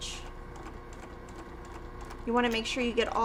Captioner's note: sewing machine whirring